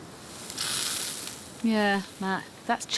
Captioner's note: sizzles